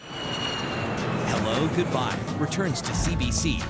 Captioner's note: plane engine roars